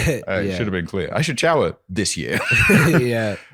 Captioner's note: laughs